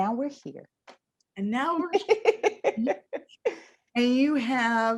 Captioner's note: laughs